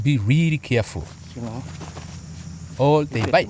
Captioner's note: non-english speech